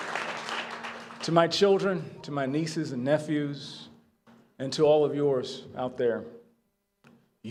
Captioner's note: applause